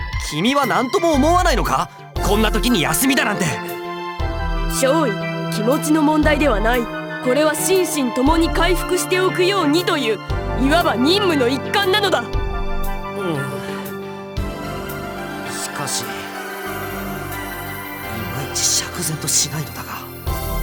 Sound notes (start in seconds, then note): none